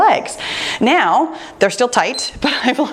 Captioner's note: timer beeps